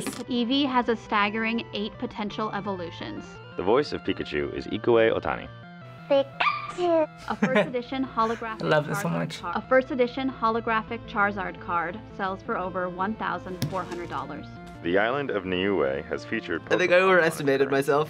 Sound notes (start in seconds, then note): 5.6 cute voice; 7.2 laughing